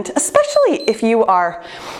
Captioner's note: timer beeps